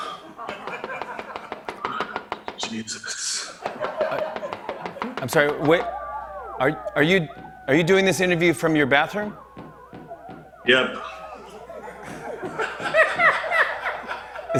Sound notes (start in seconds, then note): 0.4 knocking sound; 3.6 Knocking; 3.7 boys shouting; 11.0 shouting continues; 11.3 laughter